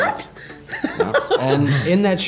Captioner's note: laughter